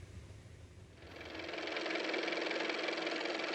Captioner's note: car motor